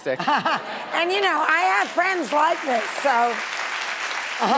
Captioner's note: laughs; audience applauding